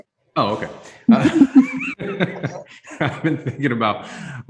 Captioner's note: laughs